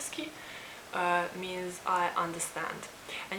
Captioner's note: Serbian